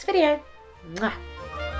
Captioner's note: kiss